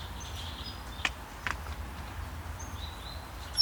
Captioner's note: birds chirping